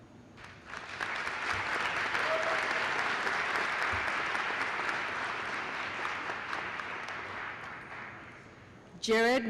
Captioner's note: applause